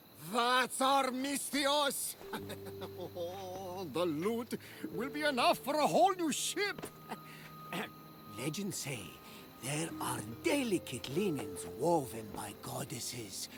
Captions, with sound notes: THAT’S OUR MISTHIOS! (laughing) Oh, the loot... ...will be enough for a whole new ship! (laugh) (clears throat) Legends say... ...there are DELICATE linens woven by goddesses...